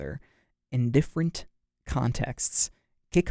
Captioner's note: none